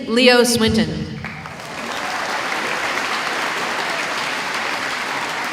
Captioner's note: applause